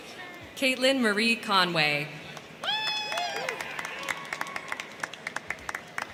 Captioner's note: crowd cheering